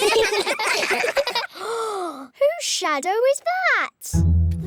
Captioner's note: all giggle; gasps